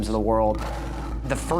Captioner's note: lion roaring